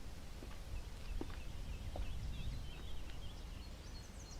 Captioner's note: birds chirp